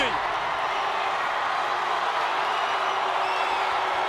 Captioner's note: crowd cheering